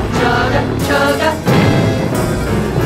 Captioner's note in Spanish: ¡bum!